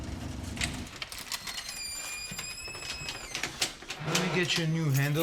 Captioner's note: door creaking